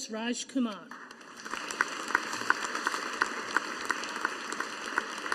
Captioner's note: audience applauding